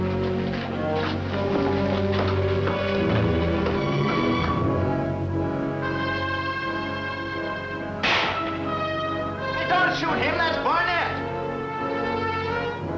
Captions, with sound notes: (gun firing) - Don't shoot him! That's Barnett!